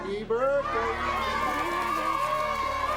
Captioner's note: cheering and clamoring